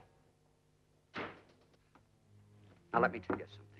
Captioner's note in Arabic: يُغلق الباب بقوة